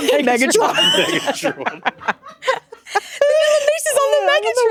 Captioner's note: laughing